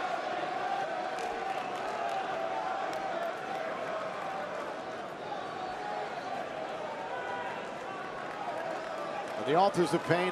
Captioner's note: crowd chatter